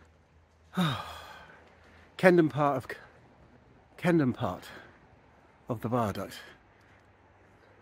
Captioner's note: sigh